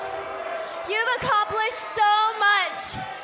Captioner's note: cheers & boos